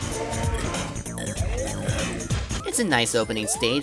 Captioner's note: confused stammering